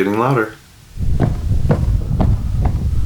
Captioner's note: footsteps